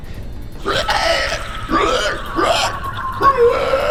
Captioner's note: creatures groaning